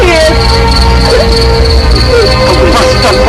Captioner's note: crying